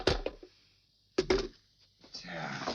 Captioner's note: phone clattering